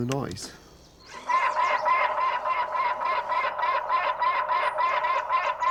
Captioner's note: Robop squawking